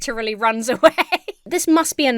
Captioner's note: laughs